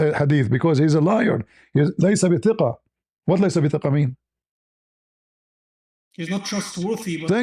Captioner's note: Arabic; Arabic